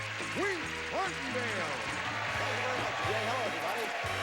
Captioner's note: audience cheering